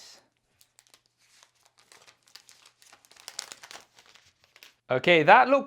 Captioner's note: phone cover rustling